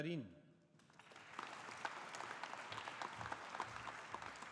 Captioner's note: audience applauding